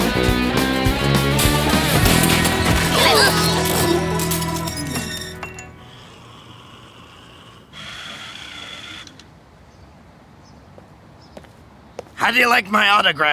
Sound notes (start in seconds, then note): 3.9 crashing